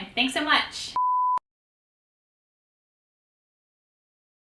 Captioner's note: beep